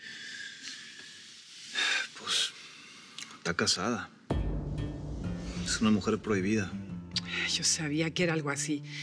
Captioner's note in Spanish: exhala